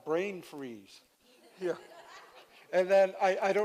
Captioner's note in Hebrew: צחוק